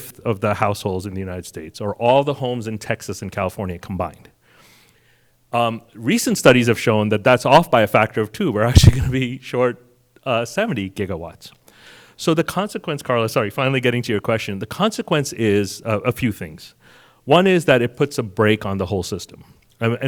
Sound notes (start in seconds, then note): 9.5 chuckles